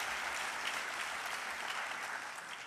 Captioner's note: applause